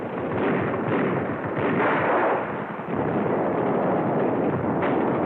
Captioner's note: gunfire